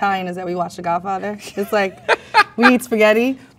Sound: man laughs

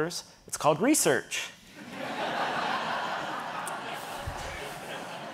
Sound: audience laughing

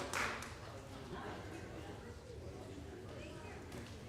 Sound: crowd murmuring

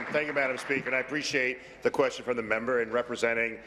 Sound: applause

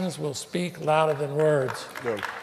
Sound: applause

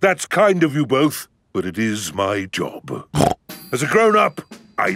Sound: snorts

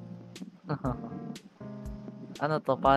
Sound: chuckles

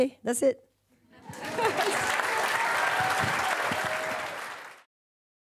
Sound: audience applause

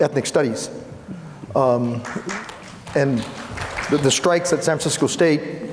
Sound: applauds

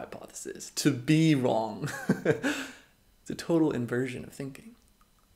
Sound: laughs

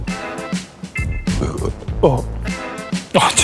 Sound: burp

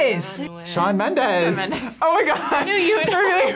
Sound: laughs

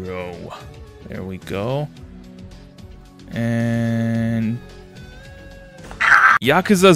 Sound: screaming

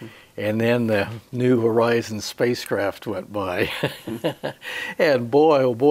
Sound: he laughs

